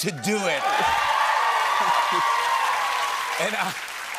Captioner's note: cheers and applause